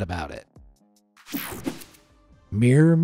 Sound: techno sound effect

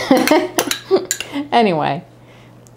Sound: laughter

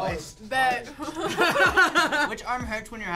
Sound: laughs

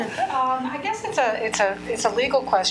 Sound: laughing

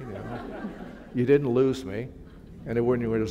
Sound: laughter

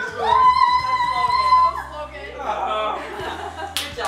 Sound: screaming

